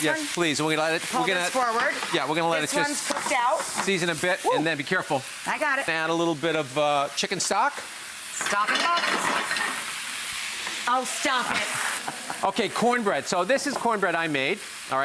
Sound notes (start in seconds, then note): 8.4 pans clattering; 11.4 giggling